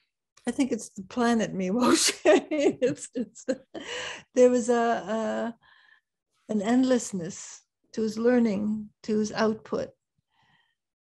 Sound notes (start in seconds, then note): 2.4 laughs